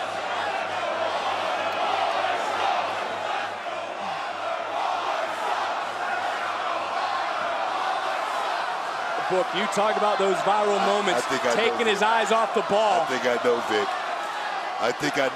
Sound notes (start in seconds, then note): 0.2 crowd chants "let's go waller"; 3.9 crowd chants "waller sucks"